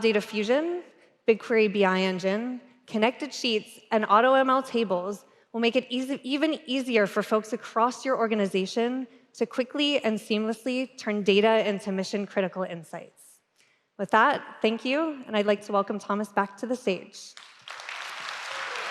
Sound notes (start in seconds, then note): 17.3 applause